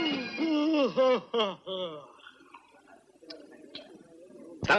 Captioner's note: yawning